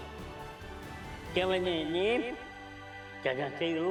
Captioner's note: Golu talking gibberish